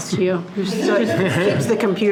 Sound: board members laugh

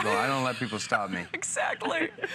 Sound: laughter

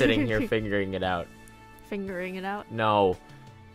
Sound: laughs

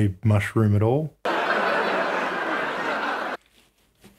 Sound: laughter

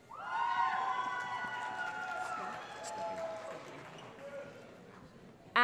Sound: cheering

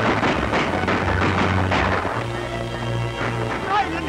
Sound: gun shots

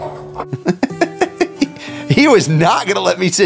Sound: chuckling

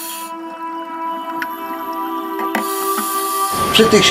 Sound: aqualung Breathing

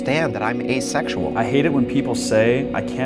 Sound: voiceover

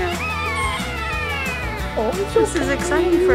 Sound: cries

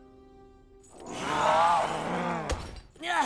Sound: screeching

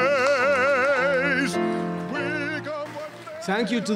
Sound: applause

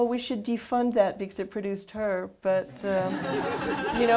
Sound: laughter

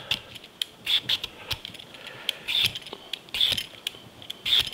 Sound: Jacques peeling

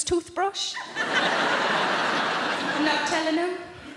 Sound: audience laughing

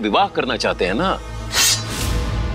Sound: sword whooshing

